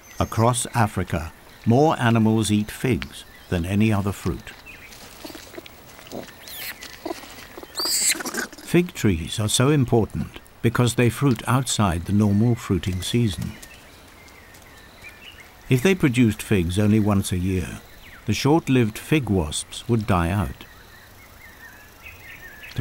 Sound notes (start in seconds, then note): 4.8 chewing